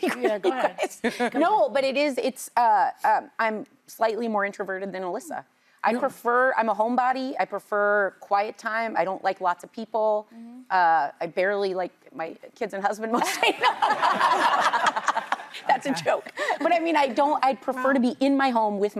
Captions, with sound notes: Yeah, come on. No, but it is. I'm slightly more introverted than Alyssa. I prefer-- I'm a homebody. I prefer quiet time. I don't like lots of people. I barely like my kids and husband more. [LAUGHTER] That's a joke. But I mean, I prefer to be in my home with my